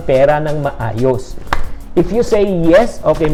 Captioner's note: clap